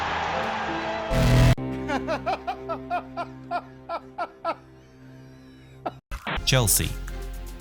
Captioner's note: Joker laughs